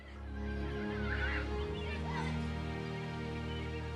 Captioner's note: children shouting